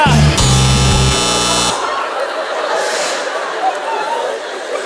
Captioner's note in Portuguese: campainha